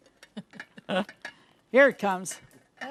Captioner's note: chuckles